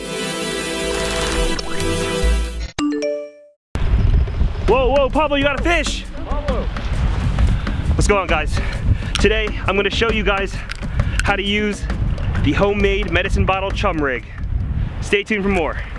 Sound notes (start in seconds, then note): 8.5 breathless